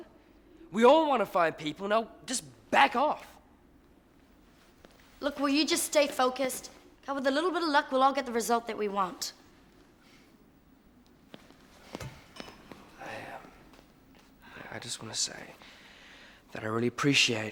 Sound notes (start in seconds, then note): none